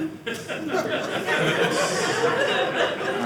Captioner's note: audience laughing